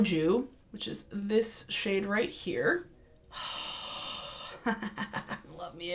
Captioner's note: laughs